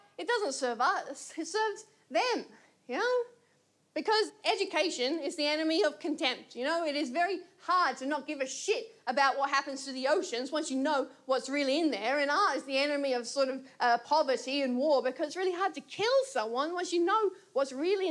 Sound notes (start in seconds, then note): none